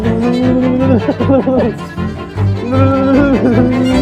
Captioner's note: laughter